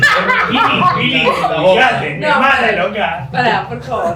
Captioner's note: laughs